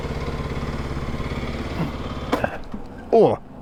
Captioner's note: engine stops